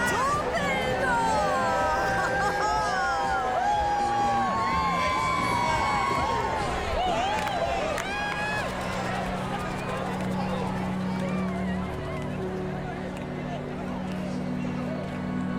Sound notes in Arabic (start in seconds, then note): 2.0 يضحك; 11.7 موسيقى هادئة